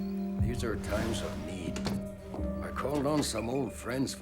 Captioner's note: door opens and closes